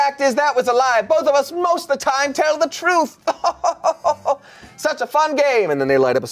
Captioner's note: chuckles